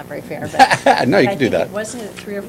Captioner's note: laughter